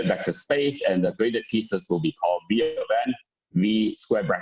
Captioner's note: murmur